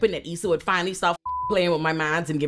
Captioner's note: beep